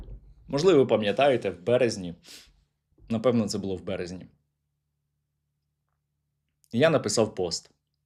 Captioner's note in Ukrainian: сопіння